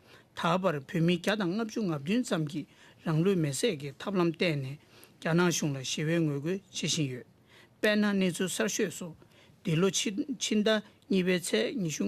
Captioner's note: speaking Alternate Language